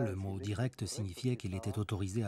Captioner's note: speaks Spanish